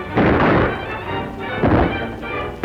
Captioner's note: gunshot; gunshots